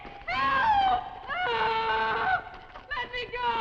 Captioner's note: screams